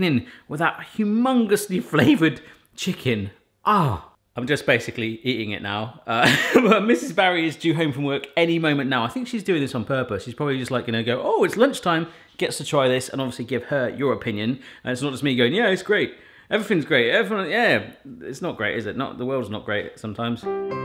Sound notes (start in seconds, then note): 6.2 laughs; 20.4 sombre music